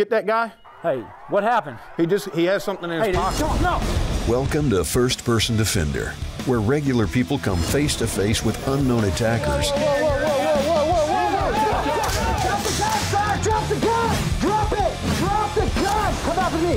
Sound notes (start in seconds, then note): 10.1 heavy metal music; 10.1 people shouting; 11.9 guns firing